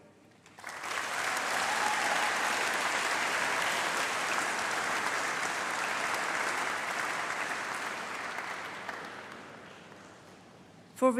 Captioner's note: applause